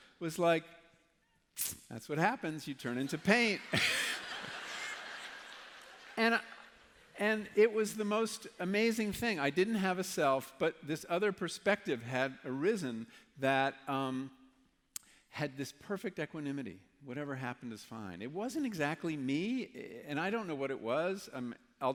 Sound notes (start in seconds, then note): 5.1 laughter